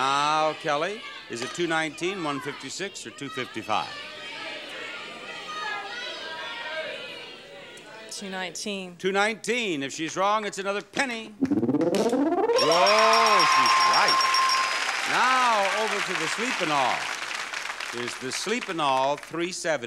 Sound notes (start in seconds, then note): 3.7 audience shouts incoherently; 11.4 counter beeps; 11.4 machine beeps; 12.4 audience cheers and applauds